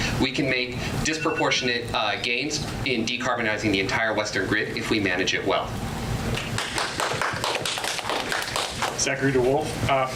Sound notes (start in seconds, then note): 6.4 audience applause